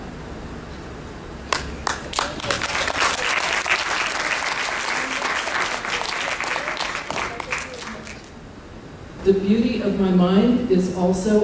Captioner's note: applause